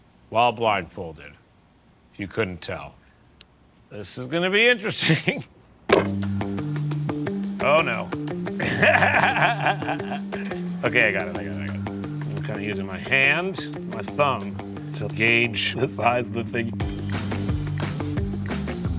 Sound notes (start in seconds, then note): 8.5 laughs